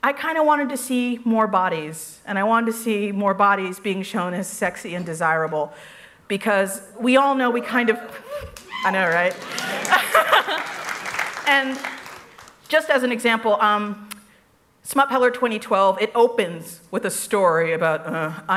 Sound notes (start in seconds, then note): 7.5 cheers